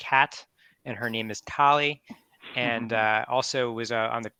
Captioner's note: laughs